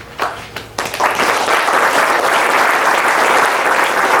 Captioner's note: audience claps